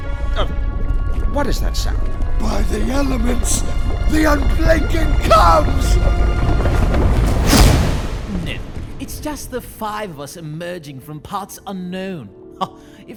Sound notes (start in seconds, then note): 0.1 rumbling intensifies; 7.3 explosion bangs